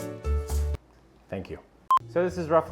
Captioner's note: music stops